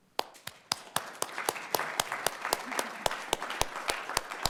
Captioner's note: audience applauding